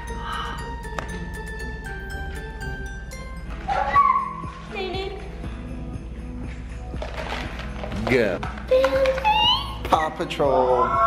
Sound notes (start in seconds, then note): 0.6 christmas music playing; 7.0 container rattling